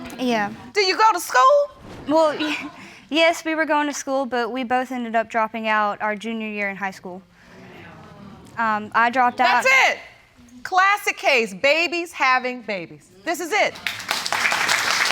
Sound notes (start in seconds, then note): 2.2 snickers; 13.7 audience applauding